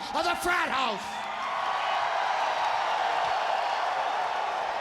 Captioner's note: crowd cheering